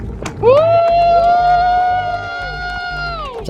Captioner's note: cheering